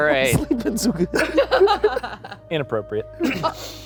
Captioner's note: laughing